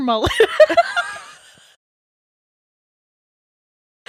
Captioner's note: laughing